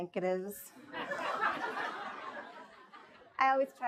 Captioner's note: audience laughs